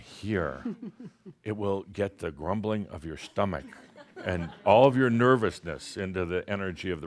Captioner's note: giggles